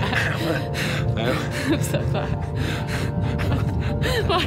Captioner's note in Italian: risate